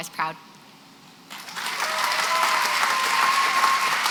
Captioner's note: applause